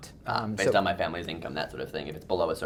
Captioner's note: voiceover